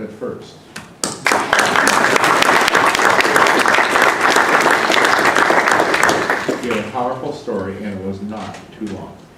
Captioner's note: applause